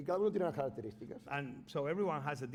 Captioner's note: speaking spanish